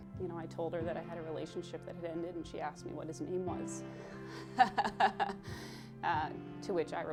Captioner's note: laughing